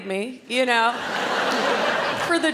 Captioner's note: crowd laughs